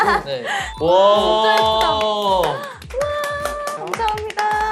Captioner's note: applause